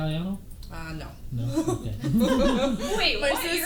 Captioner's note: laughter